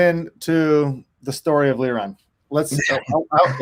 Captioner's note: laughing